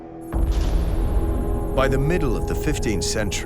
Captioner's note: computer beeping